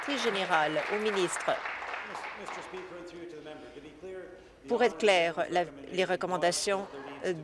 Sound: applause

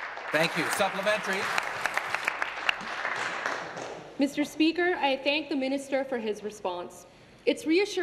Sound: applause

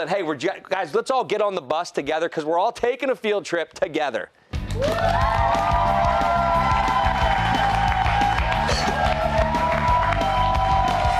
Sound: cheers and applause

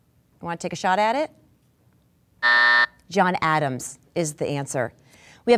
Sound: buzzing

